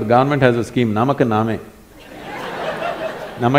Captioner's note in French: rire